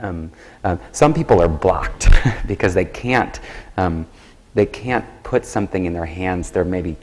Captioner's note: laughs